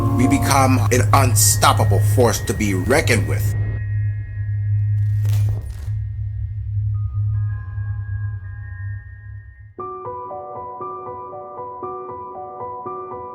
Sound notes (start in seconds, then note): 5.5 chains rattling; 9.8 soft piano music